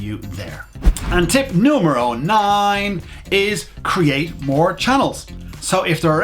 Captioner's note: whoosh